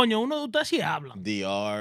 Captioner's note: speaking In Foreign Language